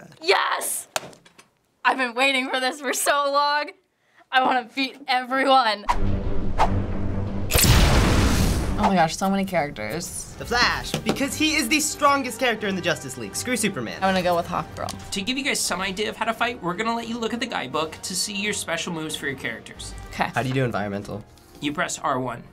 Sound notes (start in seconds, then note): 5.9 explosion; 5.9 dramatic music